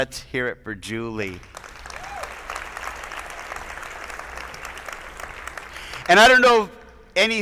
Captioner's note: attendees applauding; attendees cheering